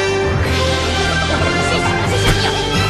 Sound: Minions Laughing

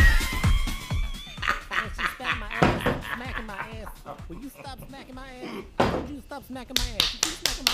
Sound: laughter, sound of TV slapstick, knee-slapping

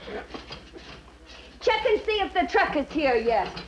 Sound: none

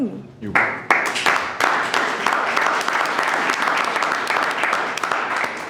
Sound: audience applauding

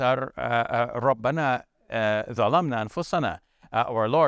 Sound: speaks in foreign language

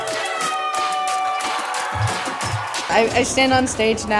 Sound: audience cheering

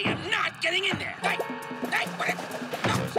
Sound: exclaims

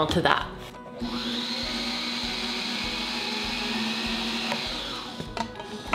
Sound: sewing machine revving

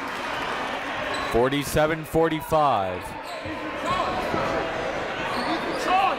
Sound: crowd talking; coaches yelling

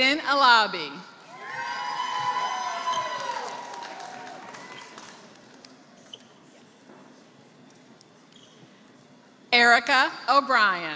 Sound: applause

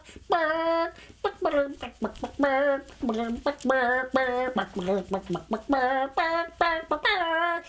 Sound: squawking musically, more enthusiastically

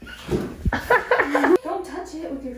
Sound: laughs

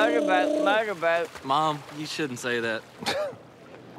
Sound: laughs

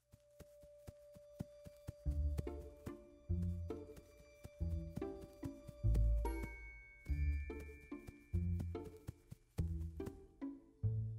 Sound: footsteps and music

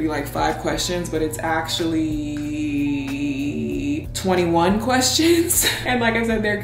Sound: laughing

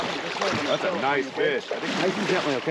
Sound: splashing

